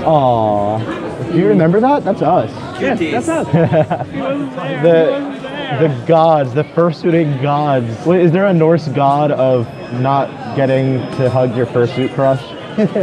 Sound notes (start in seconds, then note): 3.2 laughing; 12.7 chuckling